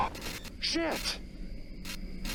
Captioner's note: glitch